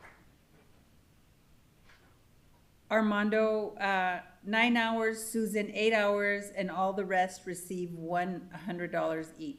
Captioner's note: applause